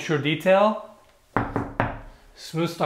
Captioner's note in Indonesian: ketuk-ketuk